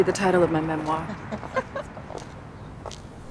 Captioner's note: both laughing